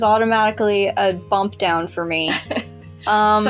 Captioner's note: laugh